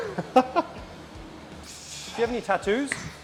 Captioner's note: laughs